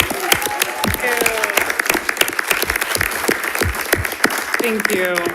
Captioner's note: attendees applauding and cheering; speaking faintly